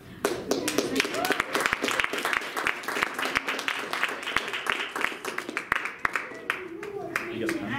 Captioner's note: applause